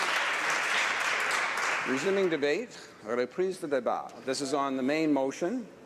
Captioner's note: applause